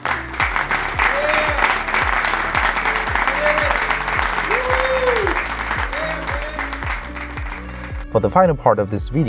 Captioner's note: applause